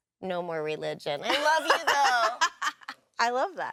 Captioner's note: laughs